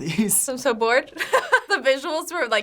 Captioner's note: laughs